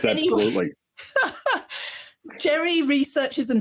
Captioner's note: laughs